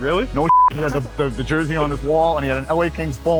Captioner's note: beep